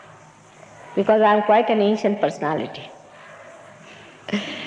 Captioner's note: laughing